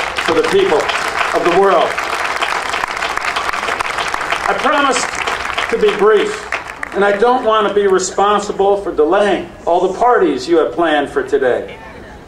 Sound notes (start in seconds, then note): 2.3 audience applauding